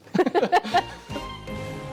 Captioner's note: laughter